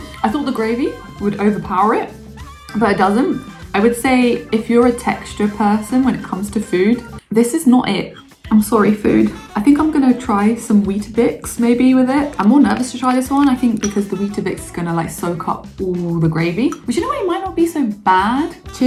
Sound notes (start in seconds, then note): 13.2 bubbles pop gently